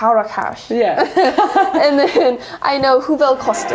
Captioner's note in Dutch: Gelach